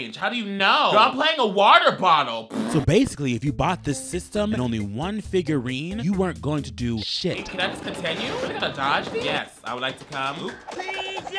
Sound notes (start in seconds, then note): 2.5 blows raspberries